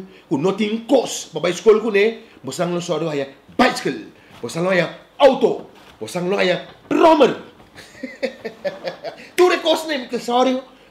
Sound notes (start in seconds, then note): 7.7 laughing